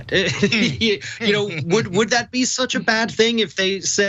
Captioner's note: laugh